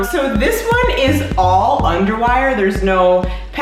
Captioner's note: none